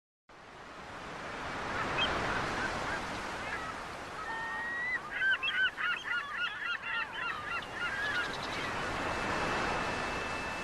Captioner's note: ocean waves, bird churping